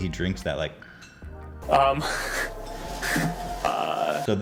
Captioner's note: hiss